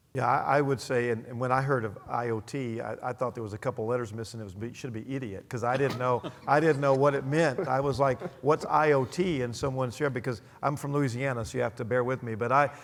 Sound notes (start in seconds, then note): 5.7 laugh